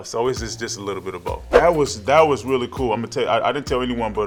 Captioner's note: air whooshing